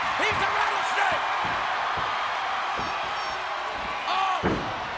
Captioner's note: audience cheers